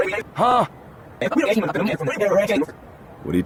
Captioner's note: Yuyanese